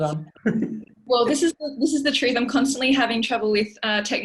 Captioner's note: laughter